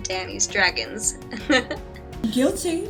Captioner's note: laughter